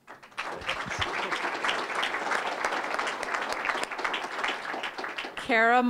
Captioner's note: applause